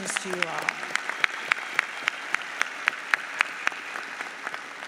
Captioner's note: audience applauds